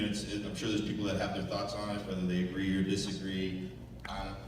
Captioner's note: none